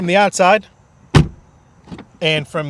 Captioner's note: card door slamming